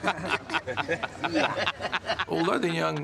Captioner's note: laughing